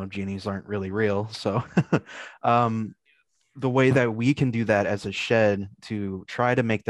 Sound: chuckles

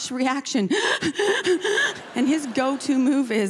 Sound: gasping sound

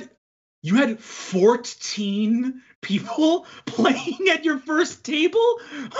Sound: laughs

